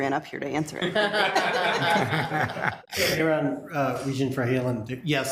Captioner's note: people laughing